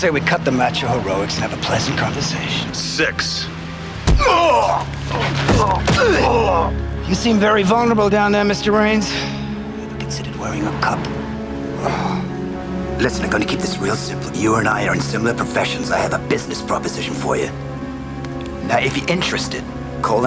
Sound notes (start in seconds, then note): 4.0 groaning